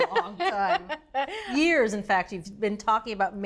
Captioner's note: laughs